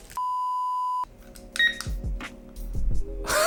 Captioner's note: beep sound